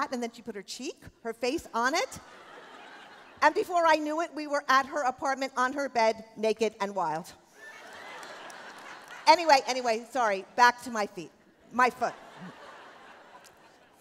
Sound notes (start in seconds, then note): 7.6 laughter